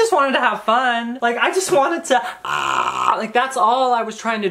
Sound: deep throat vocalization

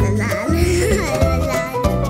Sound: chuckles

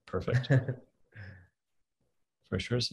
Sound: laughter

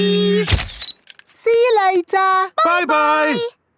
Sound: camera click

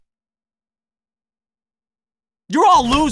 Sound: pure silence

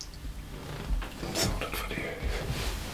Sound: he whispers incomprehensibly

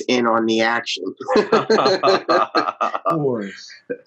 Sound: all laughing

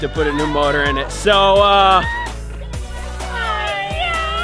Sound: cheering

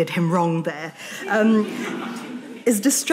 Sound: audience laughing

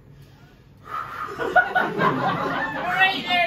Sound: deep breathing

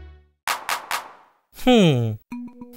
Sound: claps

